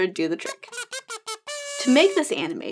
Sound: horn tooting

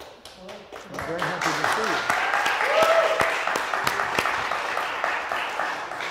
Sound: audience applauding

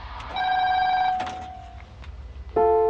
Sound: pay phone ringtone; the receiver being picked up; dial tone

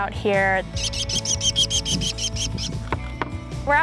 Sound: american Kestrel sounds

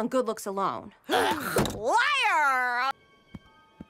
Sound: slams table

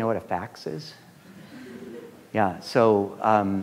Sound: students laughing

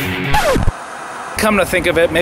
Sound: upbeat music; static hissing

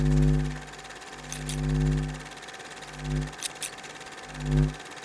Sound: light bulb humming; scissors cutting

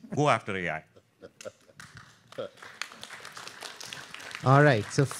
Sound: audience clapping

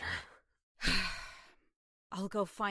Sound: sighs

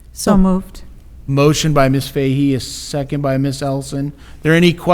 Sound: none

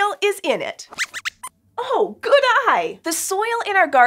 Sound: squeaks squeaks

